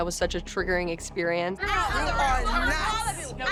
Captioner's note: overlapping chatter